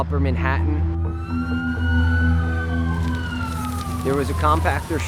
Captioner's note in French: les sirènes des véhicules retentissent